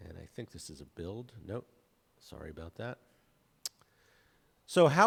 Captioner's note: clicks tongue